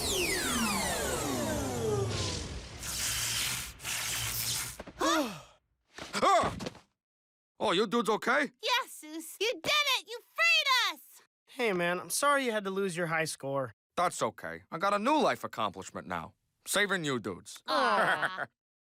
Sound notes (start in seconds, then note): 5.0 gasps